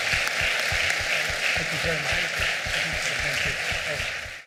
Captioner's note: applause